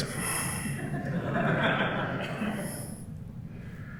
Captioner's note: laughter